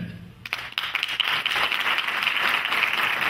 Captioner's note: clapping